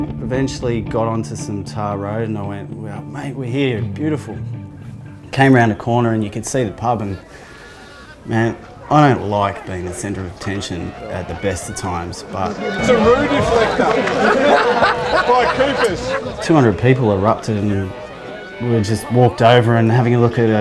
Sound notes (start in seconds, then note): 13.0 laughter; 13.8 general chatter